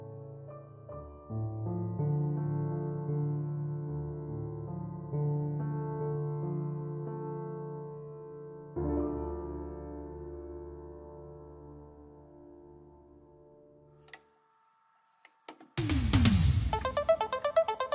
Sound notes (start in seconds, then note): 14.0 VHS Tape Recorder clicks